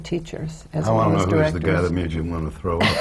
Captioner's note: laughter